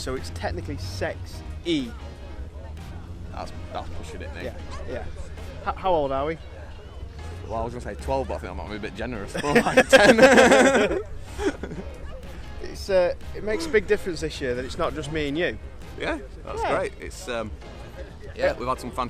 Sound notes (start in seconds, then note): 12.8 laughing